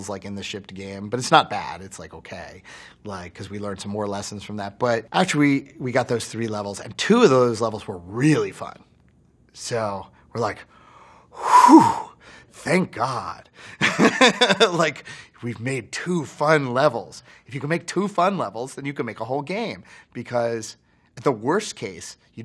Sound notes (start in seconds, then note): 13.9 laughs